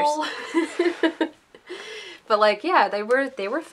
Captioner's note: laughter